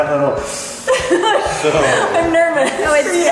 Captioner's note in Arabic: يلهث بشدة